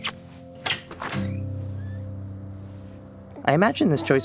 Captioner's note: door squeaking